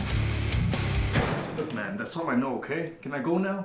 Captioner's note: door slams shut